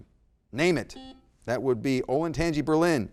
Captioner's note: buzzer blaring